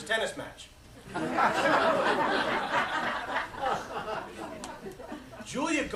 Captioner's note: laughter